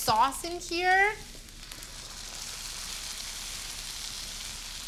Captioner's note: sizzling